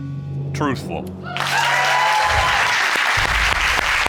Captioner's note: audience cheering, applauding